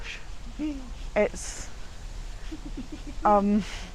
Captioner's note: giggles